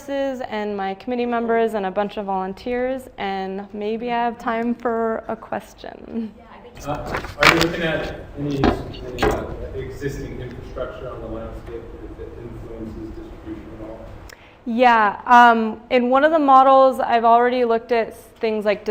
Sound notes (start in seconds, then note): 6.8 clattering